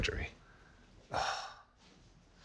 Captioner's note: sighs